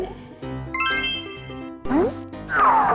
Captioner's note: magical ting; cartoony blooping